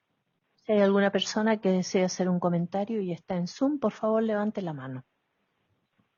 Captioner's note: speaking in foreign language